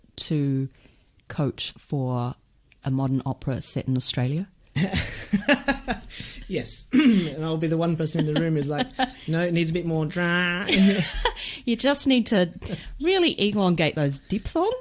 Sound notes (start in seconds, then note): 4.7 laughs; 7.9 nasal drone; 11.1 australian accent